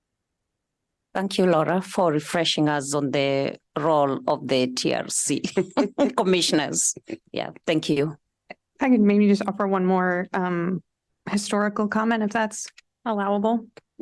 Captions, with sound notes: Thank you, Laura, for refreshing us on the role of the TRC [LAUGHTER] Commissioners. Yeah. Thank you. I can maybe just offer one more historical comment if that's allowable.